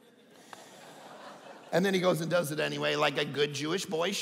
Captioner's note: audience laughing